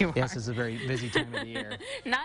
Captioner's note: laughing